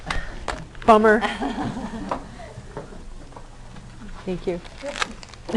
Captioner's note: laughter